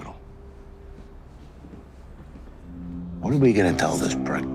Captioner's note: footsteps padding